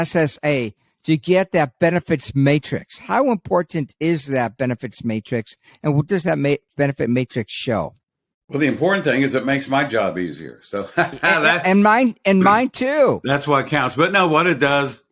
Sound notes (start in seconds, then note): 10.8 laughs